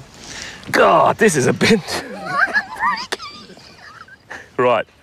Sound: laughing

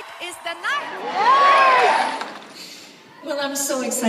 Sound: cheering

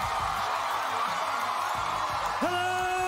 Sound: cheering

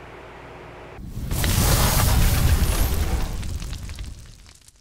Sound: logo crackling

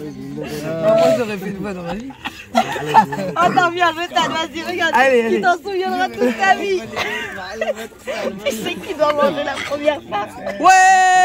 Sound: laughs

